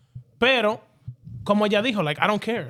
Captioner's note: speaking In Foreign Language